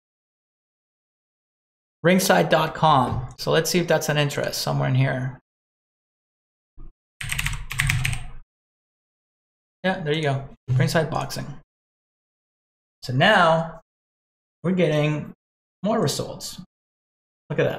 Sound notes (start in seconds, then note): 7.2 keyboard clicking